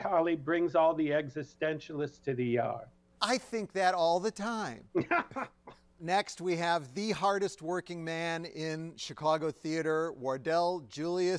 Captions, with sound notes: existentialists to the yard." I think that all the time (laughs) - Next, we have the hardest working man in Chicago theater. Wardell Julius Clark.